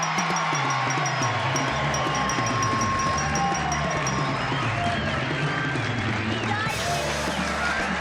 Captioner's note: cheering